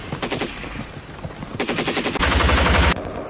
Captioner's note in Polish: odgłos karabinu maszynowego